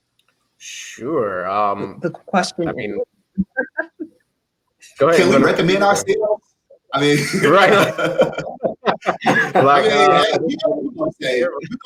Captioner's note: laughter